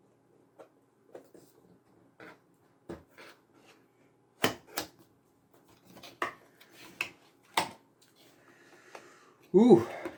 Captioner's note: unboxing sound